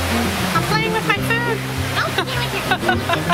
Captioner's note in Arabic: يضحك